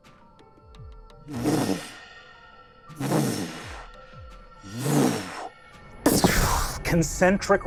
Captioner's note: whooshing